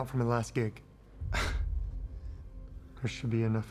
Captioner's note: sighs